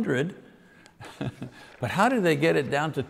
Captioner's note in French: rire